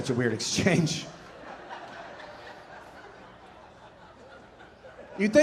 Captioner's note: audience laughing